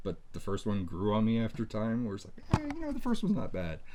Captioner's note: none